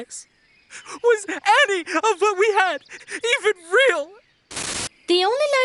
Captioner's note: sobbing